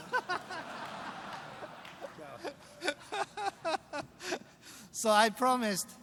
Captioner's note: laughter